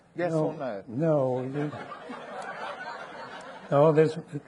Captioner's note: audience laughing